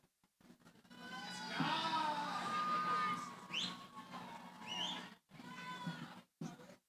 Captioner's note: cheering